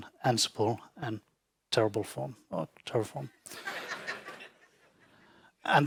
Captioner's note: audience laughing